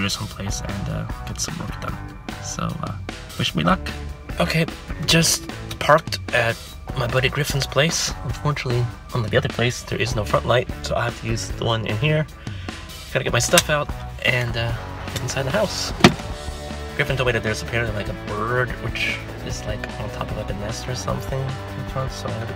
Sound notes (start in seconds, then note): 15.9 car door opening